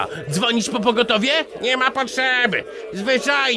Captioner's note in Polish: none